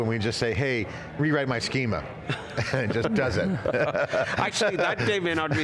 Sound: laughs

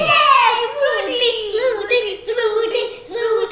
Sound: cheering

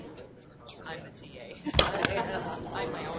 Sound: voiceover

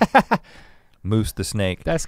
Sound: laughs

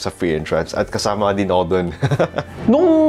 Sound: chuckles

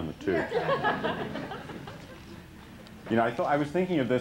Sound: laughter

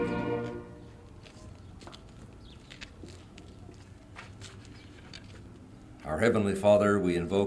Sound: footsteps and other background noise

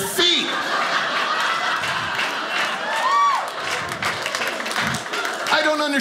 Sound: audience laughing

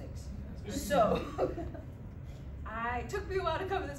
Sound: laughter

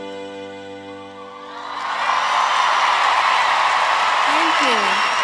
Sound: audience roars

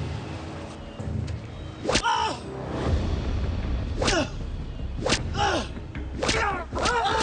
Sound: soldier cries out; whip whooshes

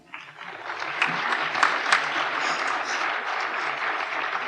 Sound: applause

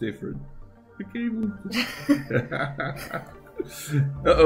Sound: laughter

